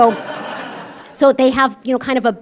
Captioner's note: laughter